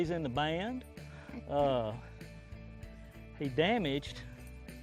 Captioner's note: laughs